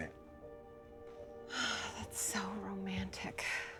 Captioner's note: sighs